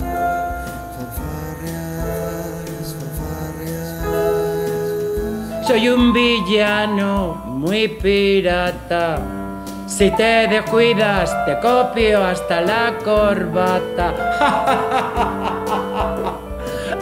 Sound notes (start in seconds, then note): 14.3 evil laughter